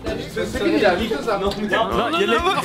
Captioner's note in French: brouhaha